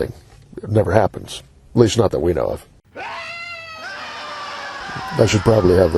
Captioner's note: screaming